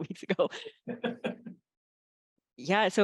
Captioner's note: laughter